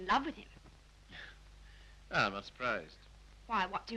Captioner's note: chuckles